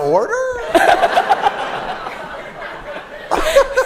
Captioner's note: laughter